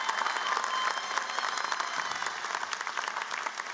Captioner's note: applause